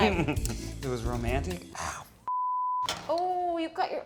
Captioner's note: beep